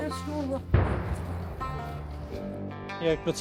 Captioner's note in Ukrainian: звук вибуху